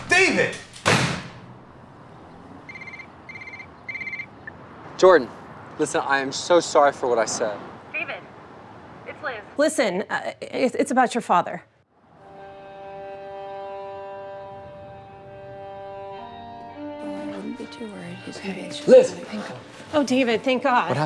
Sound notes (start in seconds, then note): 0.0 door slums; 2.6 phone rings; 12.3 suspenseful music